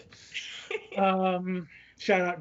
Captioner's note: laughs